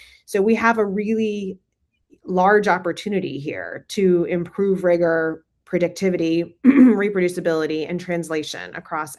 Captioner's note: clears throat